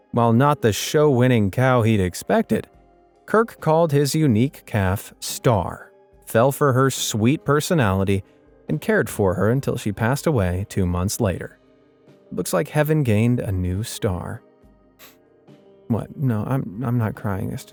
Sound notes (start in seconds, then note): 15.0 sniffling